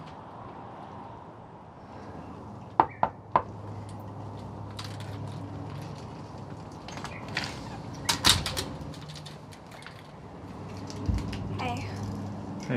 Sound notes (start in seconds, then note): 2.8 knocking on door; 6.8 door opening